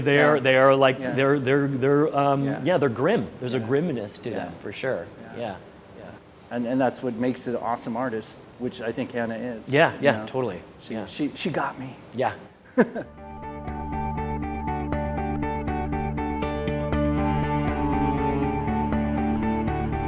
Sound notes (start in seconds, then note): 12.7 chuckles